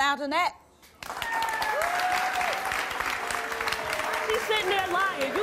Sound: audience applause and yells

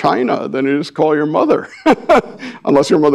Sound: laughs

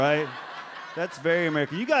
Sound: audience laughs

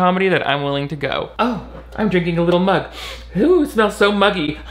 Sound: sniffs

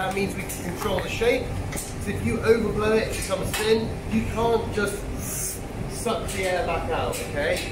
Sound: sucks air

